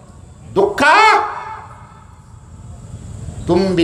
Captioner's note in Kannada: ಕಿರುಚುವಿಕೆ